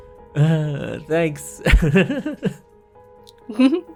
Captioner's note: chuckles